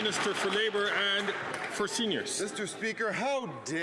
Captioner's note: applause